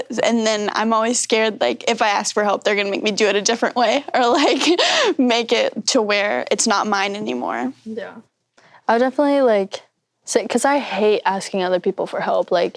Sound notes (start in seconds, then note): 4.7 chuckles